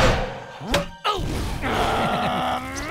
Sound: growling

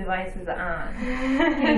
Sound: laughs

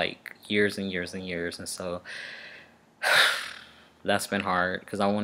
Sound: sigh-blows lips

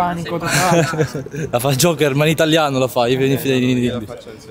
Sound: laughs

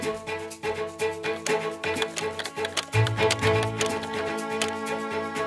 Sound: keyboard typing

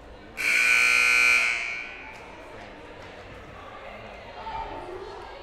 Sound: loud buzzer blaring

